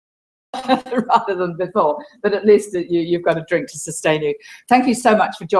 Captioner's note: laugh